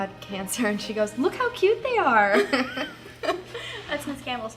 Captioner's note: laughter